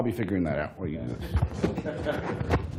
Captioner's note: laughter